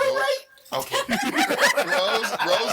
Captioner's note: all laughing